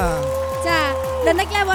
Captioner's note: cheering